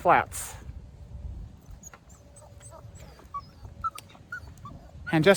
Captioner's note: Ella whimpers